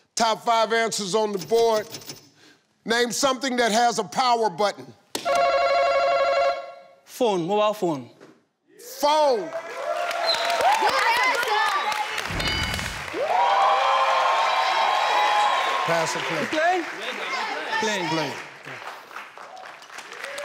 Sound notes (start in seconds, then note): 5.0 ringing; 9.9 audience cheering; 12.8 audience whooping